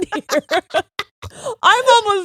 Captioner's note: both laughing